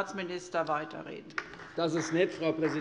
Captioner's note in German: Beifall bei der CDU